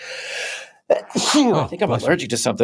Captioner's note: sneezes